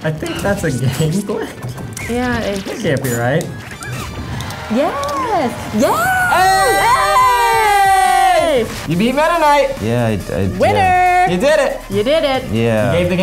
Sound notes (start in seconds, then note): 4.0 cheering